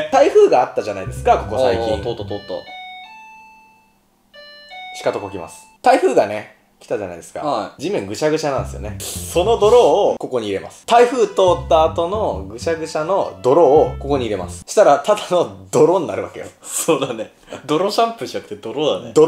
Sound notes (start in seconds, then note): 4.4 sound of doorbell